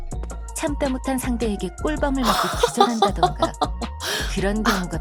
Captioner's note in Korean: 웃음